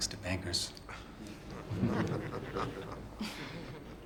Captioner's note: decorous laughter